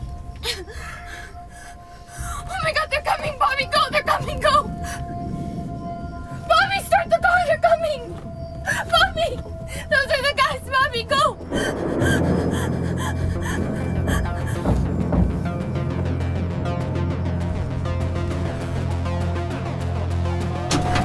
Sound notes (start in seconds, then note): 0.0 Veronica sobbing; 0.3 anxious music; 13.7 muffled knocking